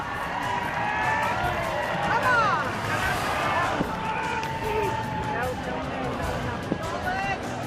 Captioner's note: applause